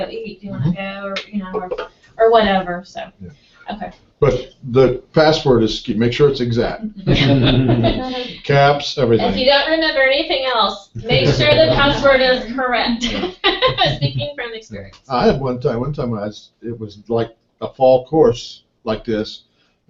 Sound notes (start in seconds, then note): 6.8 laugh; 10.9 laugh